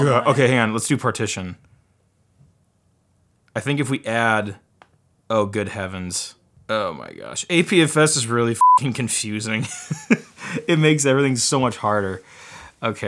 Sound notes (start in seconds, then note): 8.6 beep; 9.7 laughs